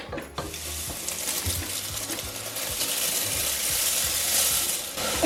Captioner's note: rustling of cornflakes